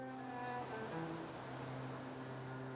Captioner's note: wind and rustling leaves